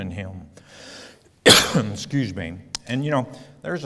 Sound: coughs

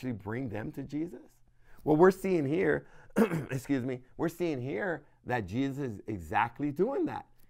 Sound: cough

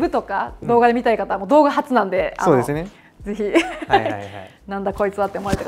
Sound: laughter

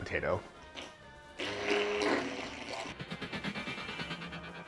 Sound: whirring

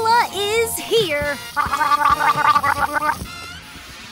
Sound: gargling

